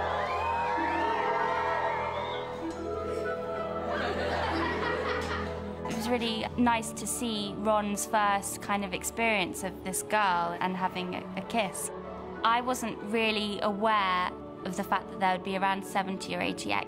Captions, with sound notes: [CROWD LAUGHING] It was really nice to see Ron's first kind of experience of this girl... ...and having a kiss. I wasn't really aware of the fact that there would be around 70 or 80 extras.